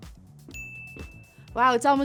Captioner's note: ding